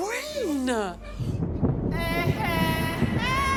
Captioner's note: thunder rumbles; evil laugh echoes